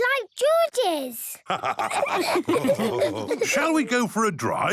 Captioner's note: all laughing